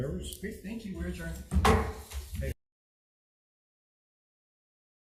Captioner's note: gavel hammers